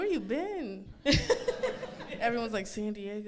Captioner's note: laughs